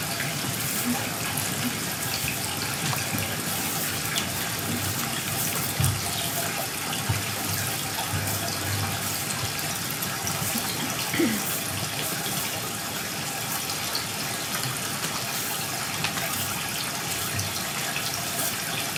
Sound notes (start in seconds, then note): 3.1 water trickling continues; 13.1 water trickling continues